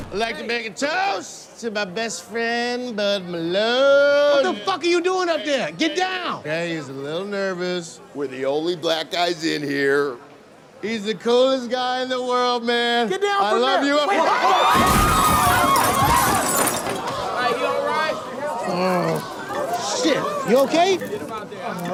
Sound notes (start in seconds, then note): 14.1 people Scream